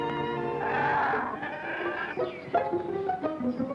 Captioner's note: growling